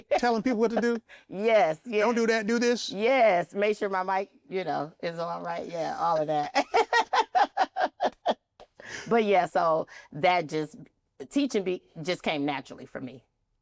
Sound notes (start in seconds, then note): 6.4 laughs